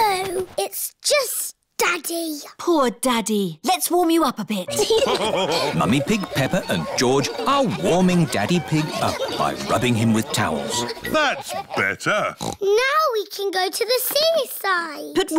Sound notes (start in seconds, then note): 4.6 laughter; 12.6 oinks